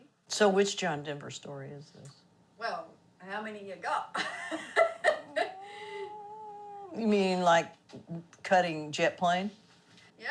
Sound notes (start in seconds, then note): 4.2 interviewer laughing